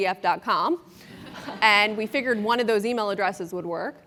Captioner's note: laugh